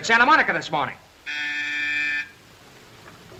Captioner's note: intercom rings